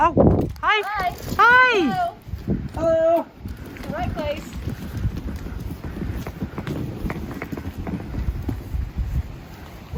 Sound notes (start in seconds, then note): 5.2 wind whooshing